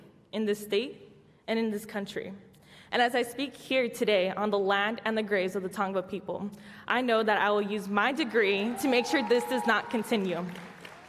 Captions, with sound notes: in this state, and in this country. And as I speak here today, on the land and the grace of the Tango people, I know that I will use my degree to make sure this does not continue [applause].